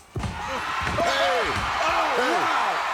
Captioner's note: commentators exclaim